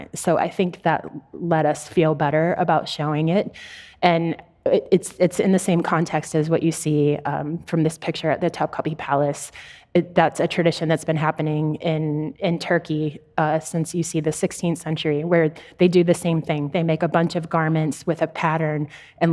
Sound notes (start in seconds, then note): none